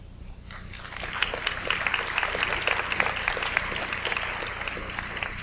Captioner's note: audience applauds